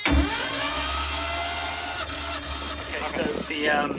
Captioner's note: the sound of a dirty old motor not starting